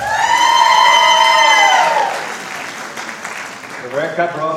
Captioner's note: cheering and applause